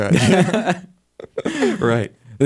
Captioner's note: laughter